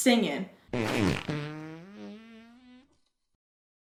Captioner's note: Arizona farts